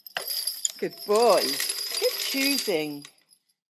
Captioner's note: clychau'n canu